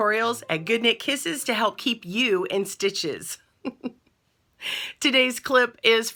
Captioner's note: laughs